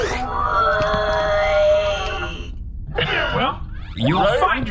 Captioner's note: AJ and his tube start groaning